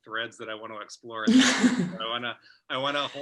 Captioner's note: laughing